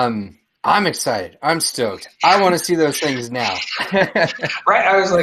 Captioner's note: laughs